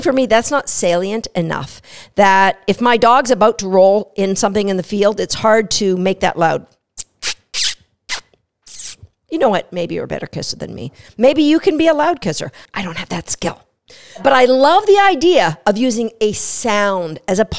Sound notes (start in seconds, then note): 6.9 kiss sound